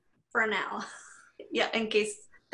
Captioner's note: chuckles